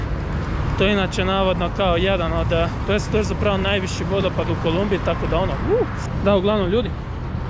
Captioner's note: sound of excitement